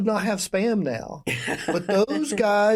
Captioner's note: laughter